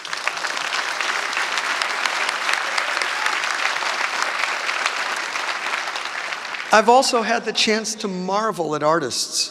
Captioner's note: applause